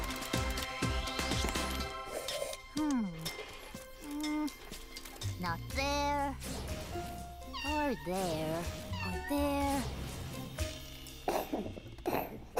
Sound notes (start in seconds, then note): 7.4 meowing; 11.2 coughing